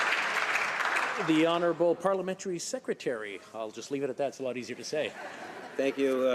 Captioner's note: some Applause